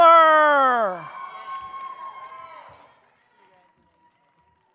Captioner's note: audience cheers